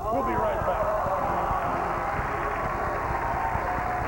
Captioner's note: cheers and applause